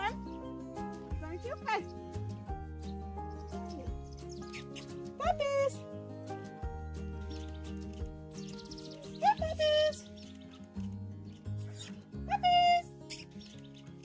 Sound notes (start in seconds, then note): 4.4 kiss/lip smacking sounds sounds; 13.1 kiss/lip smacking sounds sounds